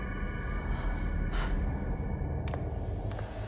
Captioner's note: sighs